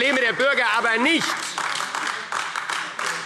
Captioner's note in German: Beifall AfD